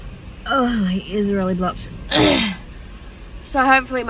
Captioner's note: clears rough throat